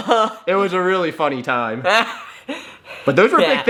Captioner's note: laughs